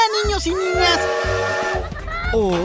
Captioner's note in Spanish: Sonido de tren